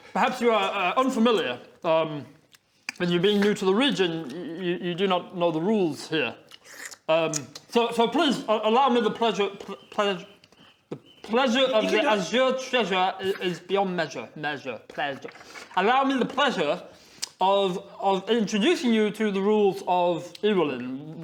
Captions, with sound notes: perhaps you are unfamiliar um with you being new to the region you do not know the rules here *slurp!* um so please allow me the pleasure...plez - the pleasure of the azure treasure - You can do it! is beyond measure...mez-ure...plez-ure Allow me the pleasure of...of introducing you to the rules of Ewolin